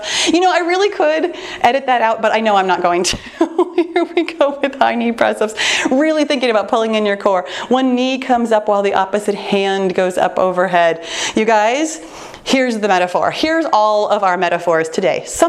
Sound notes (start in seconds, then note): 3.6 laughs